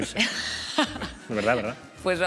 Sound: laughs

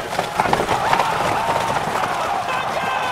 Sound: crowd cheering

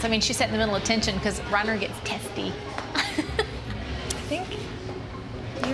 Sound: laughs

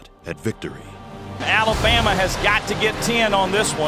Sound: voiceover

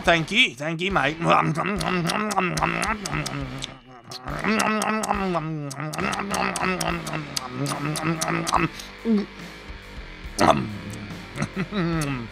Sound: eating and chewing

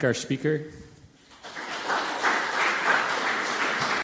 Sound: audience applause

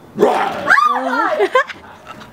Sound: growls; shrieks

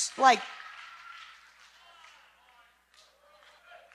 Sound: cheering

